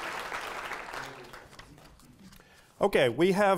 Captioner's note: applause